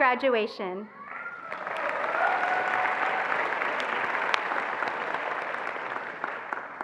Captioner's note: attendees applauding and cheering